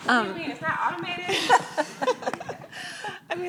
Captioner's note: laughing